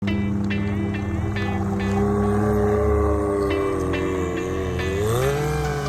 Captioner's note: upbeat music; engine revving